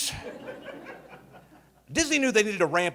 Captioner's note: audience laughing